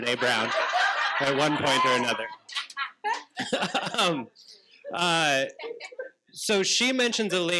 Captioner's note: participants laughing